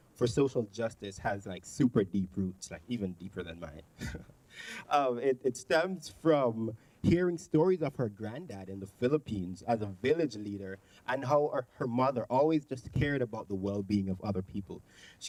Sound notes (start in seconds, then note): 4.0 chuckling